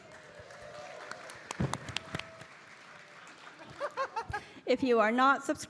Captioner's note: audience cheering; Bridget laughing